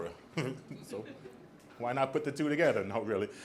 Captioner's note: audience laughs; laughs